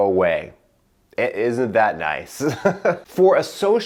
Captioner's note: laughing